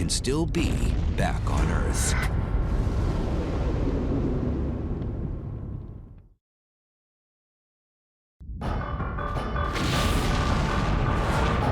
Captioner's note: blast sound